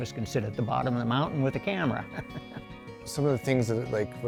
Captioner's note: chuckling